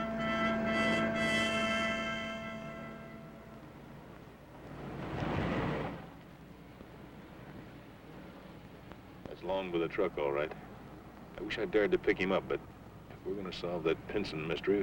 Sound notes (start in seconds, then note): 0.3 dramatic music; 5.0 car engine revving